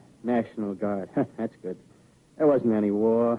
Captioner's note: laughs